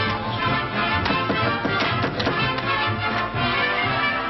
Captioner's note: knocking; upbeat jazz music